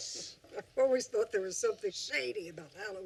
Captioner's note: laughs